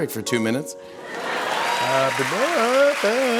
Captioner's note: laughter